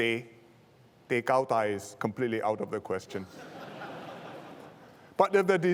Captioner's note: laughter